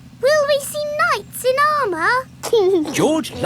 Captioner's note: giggling